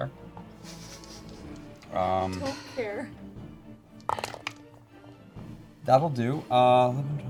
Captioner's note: laughing